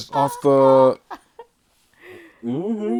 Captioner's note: laughter